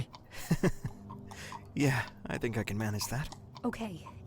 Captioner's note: laughs